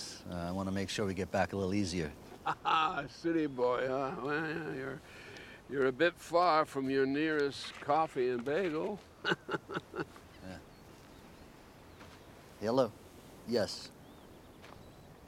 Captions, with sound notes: I want to make sure we get back a little easier. (LAUGHS) City boy, huh? Well, you're a bit far from your nearest coffee and bagel. (LAUGHS) Yeah. Hello? Yes.